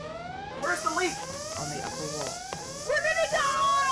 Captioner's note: computer Voice